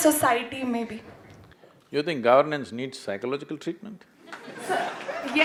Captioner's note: laughter